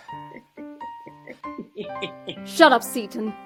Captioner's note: Seaton laughs